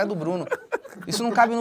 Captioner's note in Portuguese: risadas